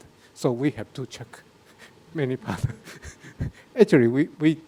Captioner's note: laughs